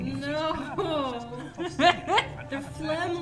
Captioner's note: laughing